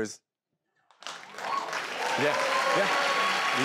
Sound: crowd cheers

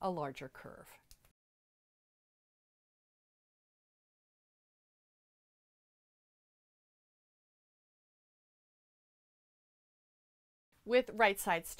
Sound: no Sound Present

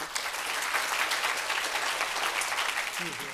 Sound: audience applauds

